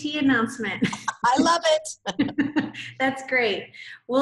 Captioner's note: laughs